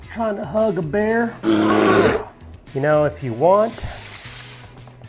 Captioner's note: bear sound